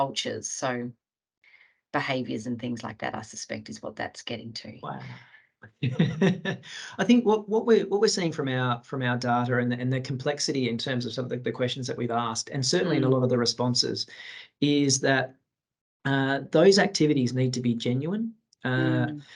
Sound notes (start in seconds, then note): 5.8 he laughs